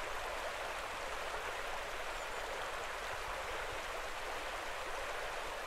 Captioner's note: river sound